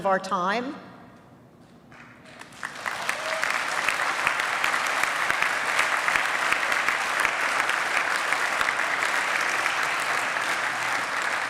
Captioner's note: applause